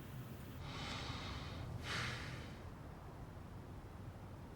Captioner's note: man sighs